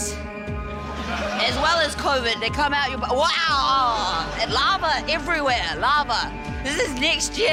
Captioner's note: exclaims